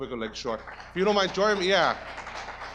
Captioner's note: audience applause